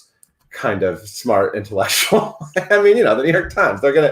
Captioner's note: laughs